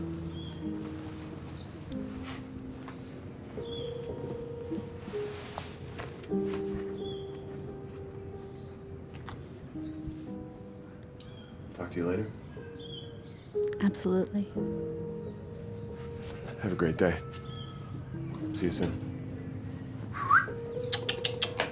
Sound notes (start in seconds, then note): 0.2 soft piano music; 3.8 birds chirping; 20.1 whistles